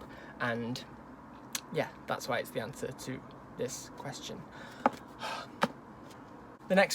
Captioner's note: sigh of frustration because I can't speak well